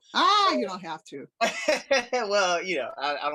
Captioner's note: laughs